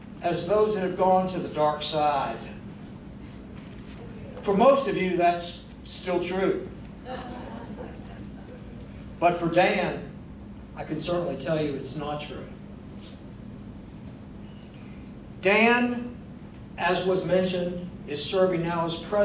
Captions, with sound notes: as those that have gone to the dark side. For most of you that's still true. (crowd chuckling) But for Dan, I can certainly tell you it's not true. Dan as was mentioned, is serving now as president